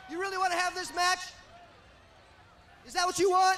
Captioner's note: crowd chatter